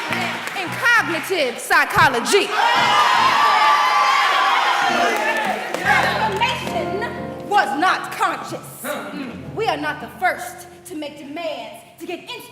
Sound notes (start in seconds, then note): 2.1 cheers